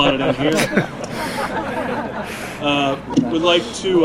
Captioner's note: audience laughing